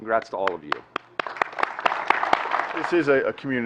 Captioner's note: applause